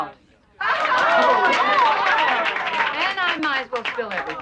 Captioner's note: cheering